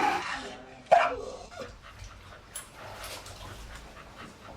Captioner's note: dog barks